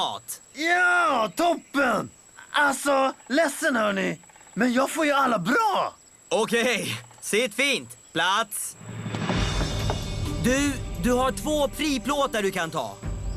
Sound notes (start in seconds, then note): none